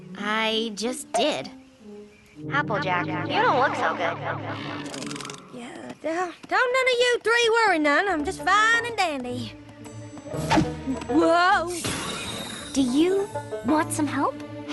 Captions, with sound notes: I...just did. [ Echoing ] Applejack, you don't look so good. Uh...uh... don't none of you three worry none. I'm just fine and dandy. Whoa! Do you want some help?